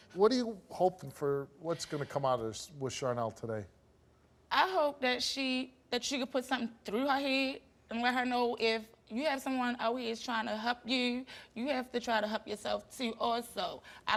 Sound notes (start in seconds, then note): none